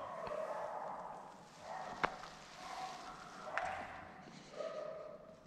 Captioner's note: dog barking